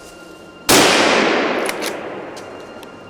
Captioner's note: gunshot